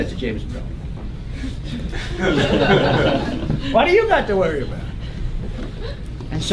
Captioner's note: laugh